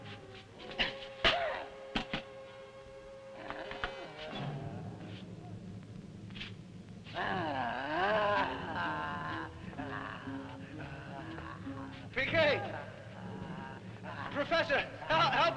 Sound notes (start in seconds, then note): 0.0 Popoca moaning; 0.3 suspenseful music; 7.0 Popoca groaning